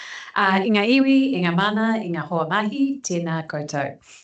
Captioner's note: speaking in te reo Māori